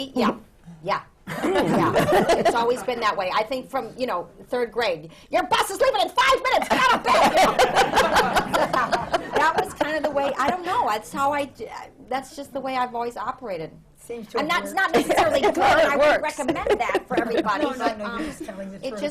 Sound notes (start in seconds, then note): 6.6 laughter